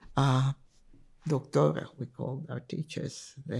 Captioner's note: spanish